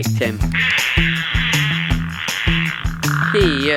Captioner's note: farts